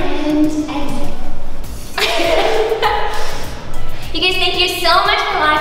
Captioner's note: laughs